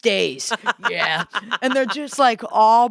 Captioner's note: laughs